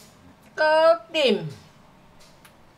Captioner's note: Cantonese